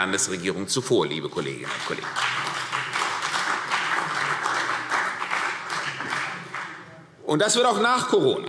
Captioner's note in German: Beifall CDU und BÜNDNIS 90/DIE GRÜNEN